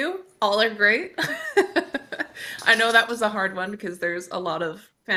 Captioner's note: chuckles